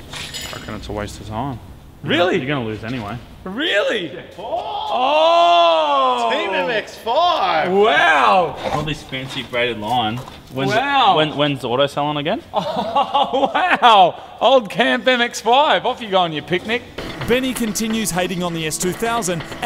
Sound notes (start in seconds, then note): 12.5 laughs; 17.1 voice over